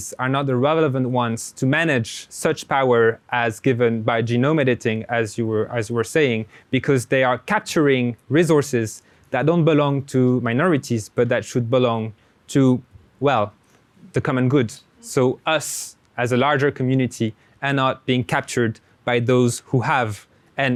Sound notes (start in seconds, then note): none